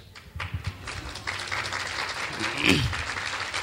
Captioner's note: clapping